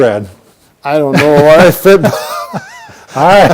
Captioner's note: laughing